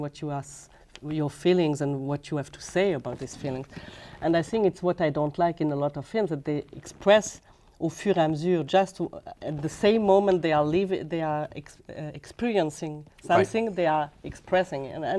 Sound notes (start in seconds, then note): 8.6 speaking French